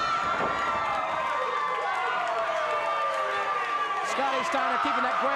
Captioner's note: audience cheers